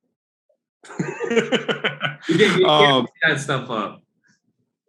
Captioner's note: Alex laughs